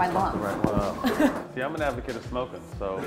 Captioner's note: laughs